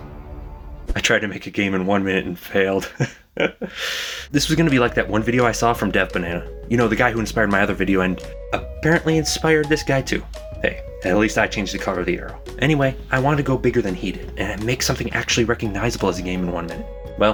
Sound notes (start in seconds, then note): 2.8 laughter